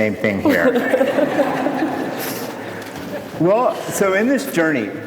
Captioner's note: audience laughs